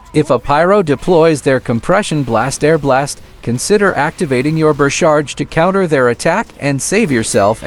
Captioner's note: airblast